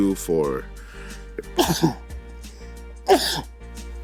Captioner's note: coughing